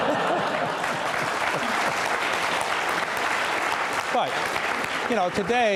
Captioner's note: audience laughter and applause